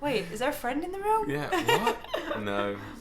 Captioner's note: laughing